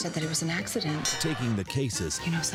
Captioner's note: bell dings